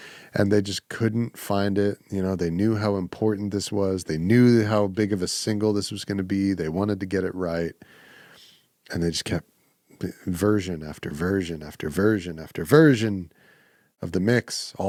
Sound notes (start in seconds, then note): none